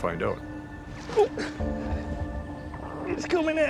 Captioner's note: grunts